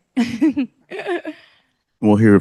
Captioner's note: chuckles